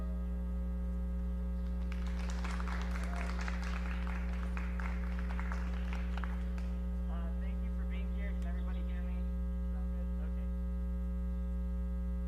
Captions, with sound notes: (Audience applauds) - Thank you for being here, can everybody hear me? Okay.